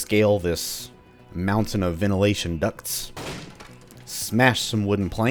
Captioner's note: smash